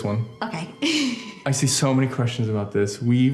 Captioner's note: laughs